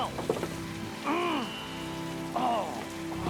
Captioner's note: Jakob growls